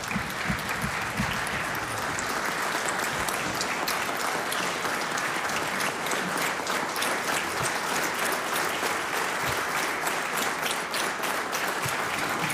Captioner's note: applause